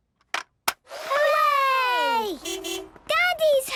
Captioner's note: distant beeping